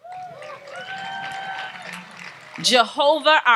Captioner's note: audience applauds and cheers